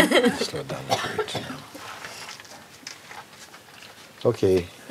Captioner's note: Lachen